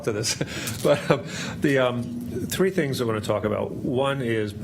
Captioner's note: laughs